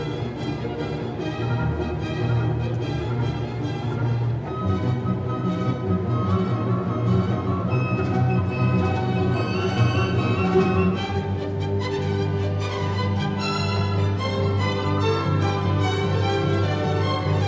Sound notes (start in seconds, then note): 8.2 cheers and Applause